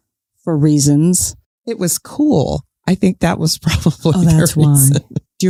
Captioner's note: chuckles